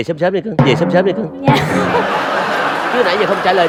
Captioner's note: laughing